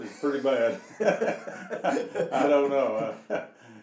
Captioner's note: laughing